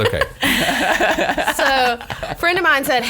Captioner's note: laughs